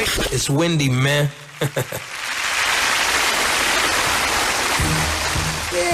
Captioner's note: audience applauds